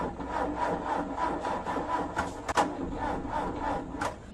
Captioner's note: car engine sputtering